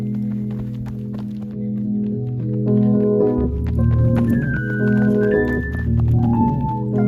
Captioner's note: footsteps patter; disjointed piano music